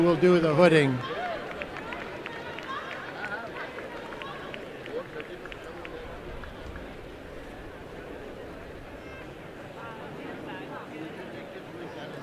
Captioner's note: applause and cheering